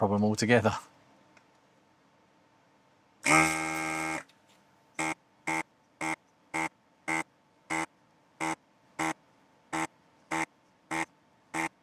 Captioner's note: buzzing